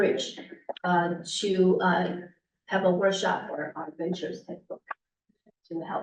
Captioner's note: muffled voice